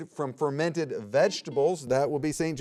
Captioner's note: buzzer beeps